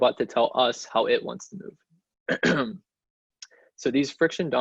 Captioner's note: cleats throat